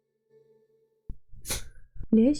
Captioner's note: sneeze